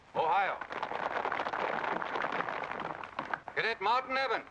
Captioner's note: crowd applause